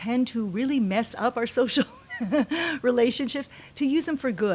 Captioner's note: laughs